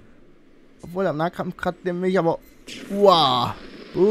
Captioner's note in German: Stöhnt